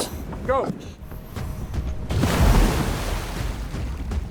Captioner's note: divers splash in water